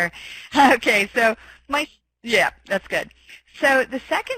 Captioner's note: laughing